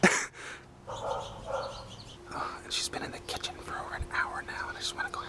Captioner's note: whispers